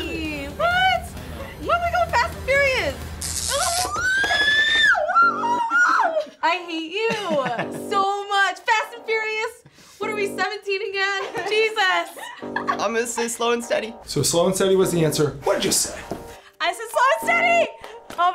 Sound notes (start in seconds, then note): 2.8 electricity crackles; 3.7 screams